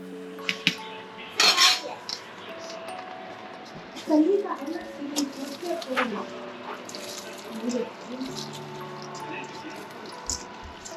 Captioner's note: rice added... background noise.. music